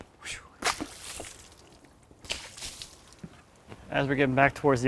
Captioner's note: water splashing